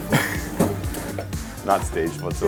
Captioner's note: chuckles